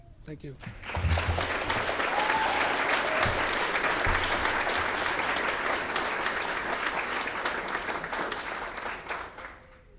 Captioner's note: clapping